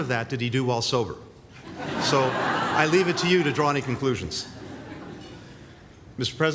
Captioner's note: laughter